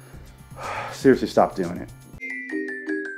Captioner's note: sigh